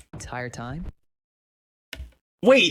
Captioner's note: audio cuts again